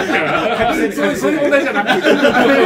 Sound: laughs

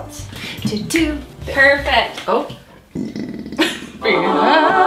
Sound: burps; heavenly music; sings

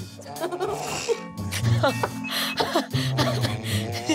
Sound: girls giggling

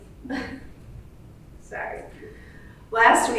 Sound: laughs

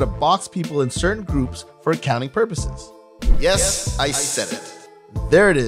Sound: mic drop

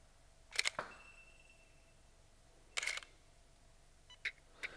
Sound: camera shutter clicks

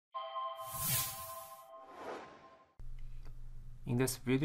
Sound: logo sound

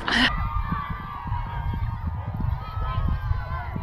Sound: mediocre cheering

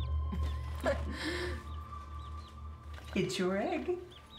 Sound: Makayla laughs

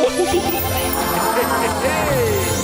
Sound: crowd

